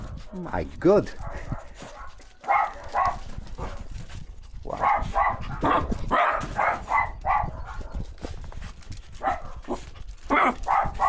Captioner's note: dog barking; dog barking